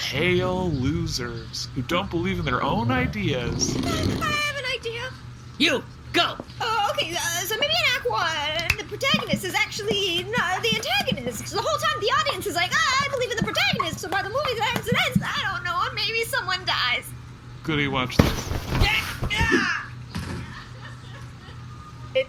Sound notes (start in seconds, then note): 6.8 panicked, stuttering